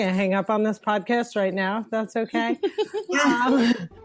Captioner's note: laughs; plucky music restarts